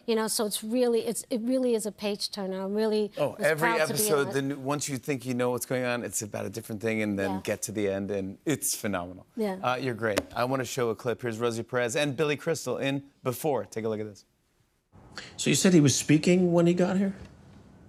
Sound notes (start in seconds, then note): none